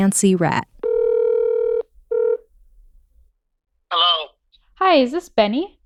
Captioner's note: soundbite of phone ringing